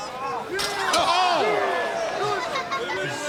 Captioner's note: metal clanking; crowd chattering